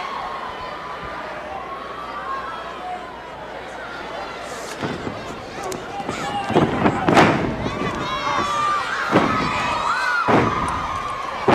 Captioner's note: crowd cheering